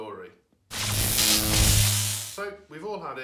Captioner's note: electric buzz